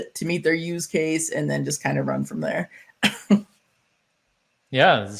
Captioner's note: chuckles